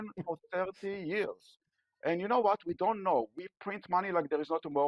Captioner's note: laughter